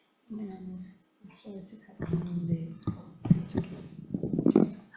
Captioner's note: faintly speaks